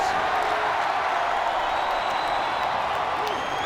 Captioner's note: crowd cheers